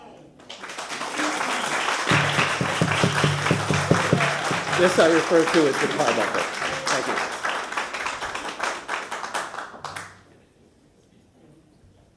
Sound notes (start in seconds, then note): 3.5 applause; 5.8 gavel sounding